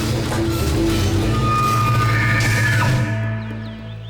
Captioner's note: roaring